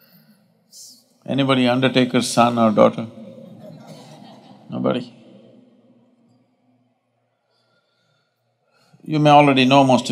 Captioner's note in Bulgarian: Смях